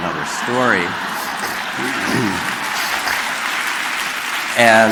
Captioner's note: crowd applauding